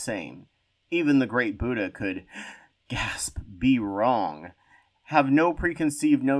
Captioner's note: gasp